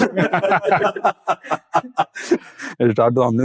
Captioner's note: laugh